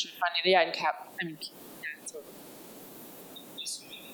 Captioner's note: speaks faintly